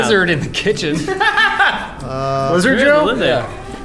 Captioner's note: laughs